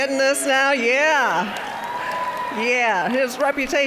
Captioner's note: cheering, applause